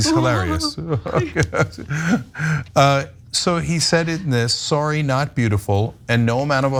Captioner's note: laugh